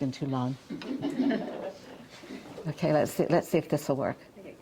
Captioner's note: audience chuckling